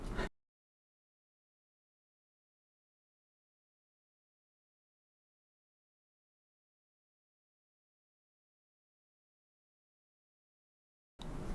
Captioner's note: silence